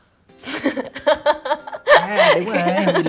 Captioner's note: laugh